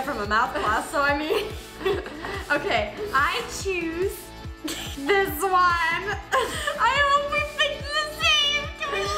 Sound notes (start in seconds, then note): 4.6 laughs